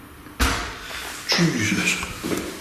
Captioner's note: thud